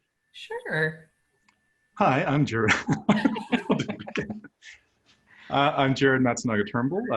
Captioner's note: laughter